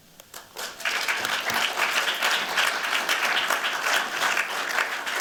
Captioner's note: applause